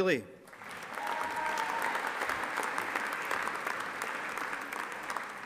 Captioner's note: audience applauding